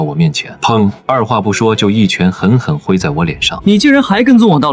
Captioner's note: bang!